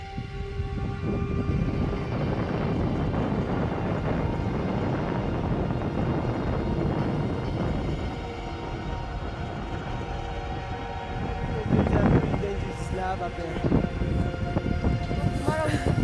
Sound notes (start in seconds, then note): 3.2 strong wind blows